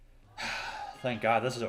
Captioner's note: sigh